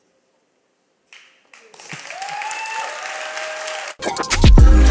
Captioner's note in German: Applaus